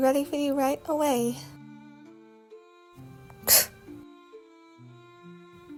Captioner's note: scoffs